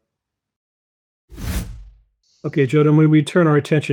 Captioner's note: air whooshes